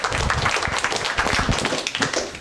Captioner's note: applause